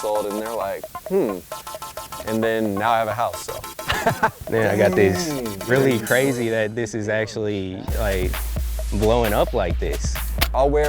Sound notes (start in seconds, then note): 3.8 laughter